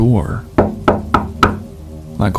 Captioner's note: loud knocking